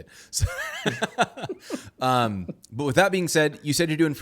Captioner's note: laughing